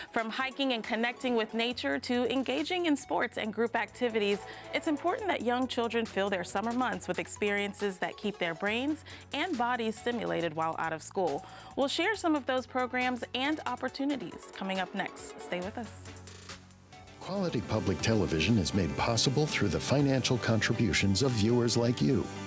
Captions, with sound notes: From hiking and connecting with nature to engaging in sports and group activities, it's important that young children feel their summer months with experiences that keep their brains and bodies stimulated while out of school. We'll share some of those programs and opportunities coming up next. Stay with us. - [Voiceover] Quality public television is made possible through the financial contributions of viewers like you